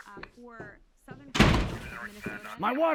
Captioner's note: door slams